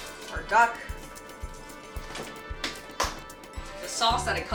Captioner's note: slaps duck